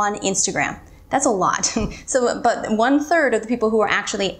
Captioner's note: giggles